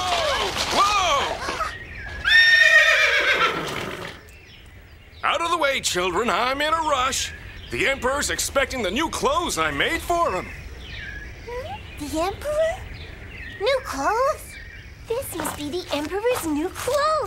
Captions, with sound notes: Whoa! (horse neighs) Out of the way, children, I'm in a rush. The Emperor's expecting the new clothes I made for him. - Hm? The Emperor? - New clothes? This must be The Emperor's New Clothes.